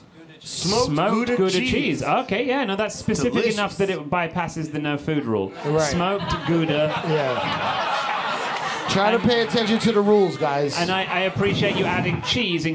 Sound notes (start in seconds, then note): 8.2 crowd laughing